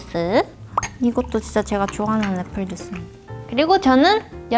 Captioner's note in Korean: 쪼르르르